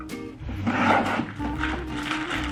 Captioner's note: cardboard scratching; plastic wrap rustling